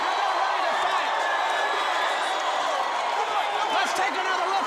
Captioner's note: crowd cheering